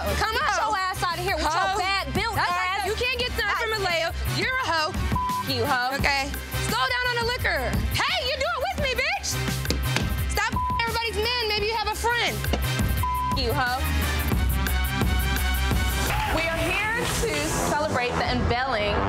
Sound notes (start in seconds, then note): 5.0 beep; 9.8 pounding; 12.9 beep